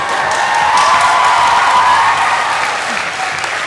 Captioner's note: applause